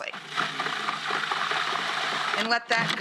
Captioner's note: food processor spinning